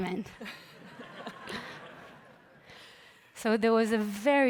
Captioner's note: laughter